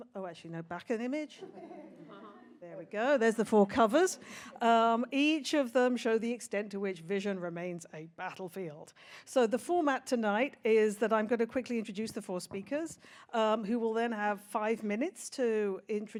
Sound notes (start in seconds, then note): 1.4 audience laughs